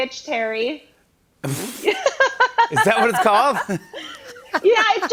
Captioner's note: laughs